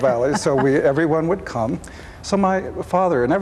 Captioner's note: laughs